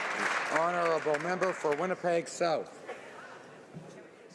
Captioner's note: some Applause